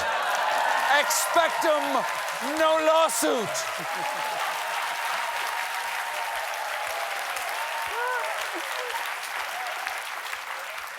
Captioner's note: cheers and applause